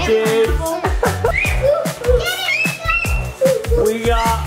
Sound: kids yelling excitedly

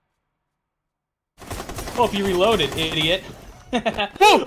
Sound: guns firing; laughs; exclaims

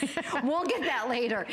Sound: laughter

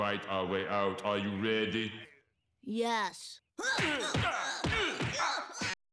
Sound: grunting, Blows Landing

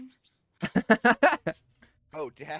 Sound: laughing

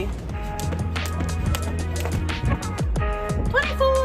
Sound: rope hitting ground

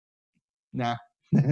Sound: laughs

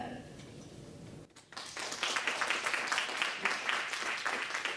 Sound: audience clapping

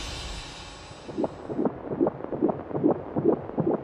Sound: heart beating

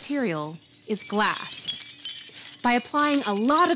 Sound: glass shattering

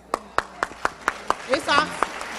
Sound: clapping

